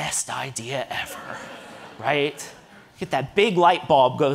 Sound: audience laughing

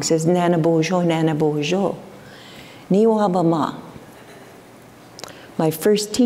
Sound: foreign speaking

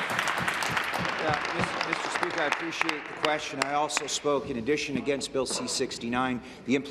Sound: applause

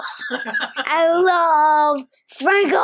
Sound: laughing

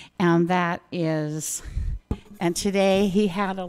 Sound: none

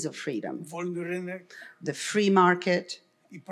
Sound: foreign language

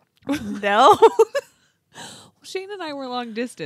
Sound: laughs

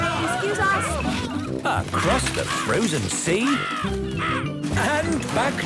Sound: birds cawing

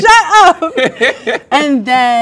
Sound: both laugh

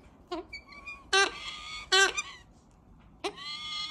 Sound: bird squeaking

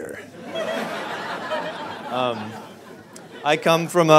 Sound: audience laughs

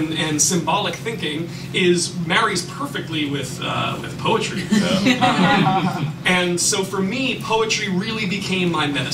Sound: laughter

